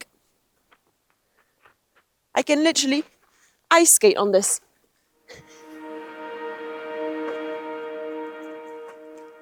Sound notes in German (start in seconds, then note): 0.9 Schritte; 5.4 helle Musik